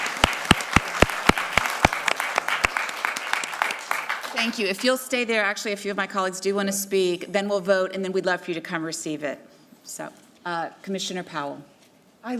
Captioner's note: applause